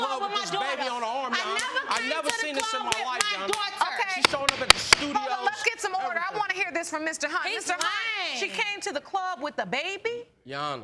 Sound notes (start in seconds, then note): 4.2 gavel banging